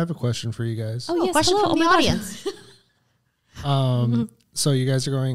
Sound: laughs

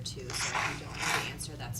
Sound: blowing nose

